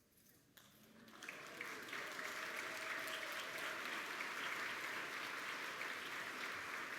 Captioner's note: applause